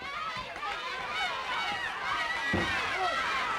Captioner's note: crowd yelling